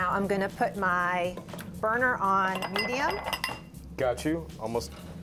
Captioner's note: glass bowl jingling